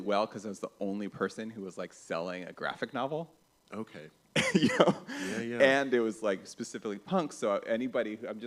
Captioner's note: laughs